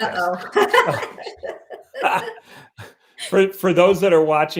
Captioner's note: laughing